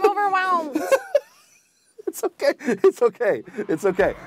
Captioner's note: laughs